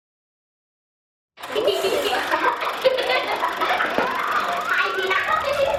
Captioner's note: children giggling